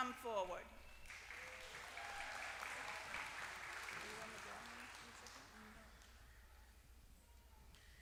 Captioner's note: applause